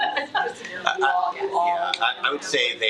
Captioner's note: attendees chattering